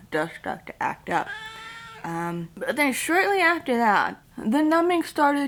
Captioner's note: cat meows